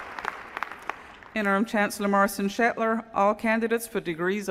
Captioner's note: applause